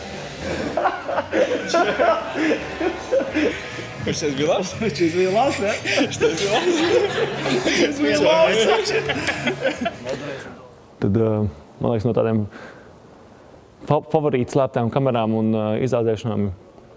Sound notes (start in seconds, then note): 5.2 both laughing